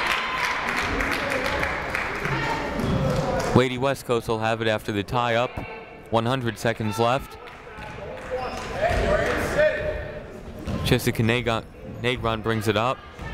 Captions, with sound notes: (crowd clapping) Lady West Coast will have it after the tie up. 100 seconds left. (people shouting in the crowd) Jessica Negron brings it up.